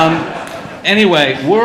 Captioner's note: audience laughing